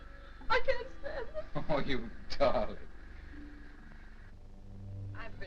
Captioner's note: chuckling